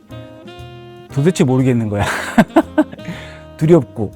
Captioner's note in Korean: 웃음